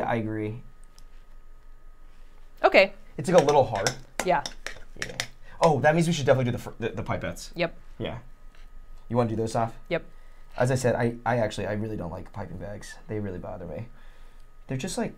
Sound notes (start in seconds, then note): none